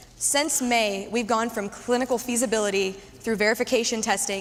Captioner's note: none